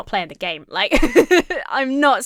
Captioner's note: laughs